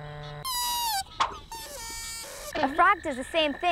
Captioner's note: squeaking